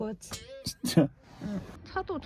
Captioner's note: laughs